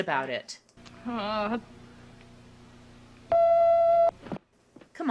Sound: groans

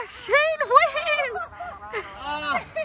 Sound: laughing

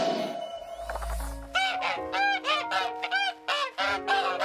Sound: honks

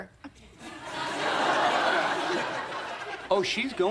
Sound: audience laughing

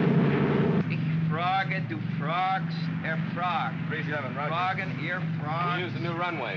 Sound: aircraft rumbles; Mac practices German

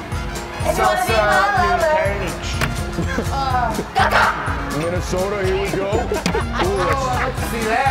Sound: laugh

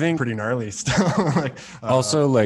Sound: laughs

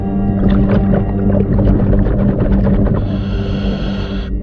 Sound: breaths in

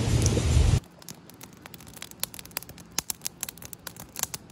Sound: fire crackling

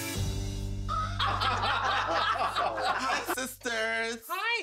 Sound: laughter

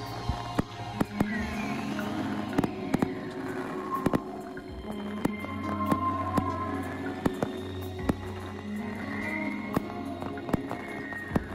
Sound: fireworks bang and crackle while music plays

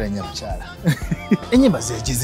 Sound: laughs

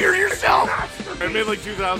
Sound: Harry potter screaming; screaming

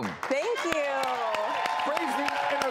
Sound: cheering

